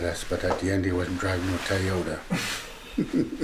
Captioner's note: laughs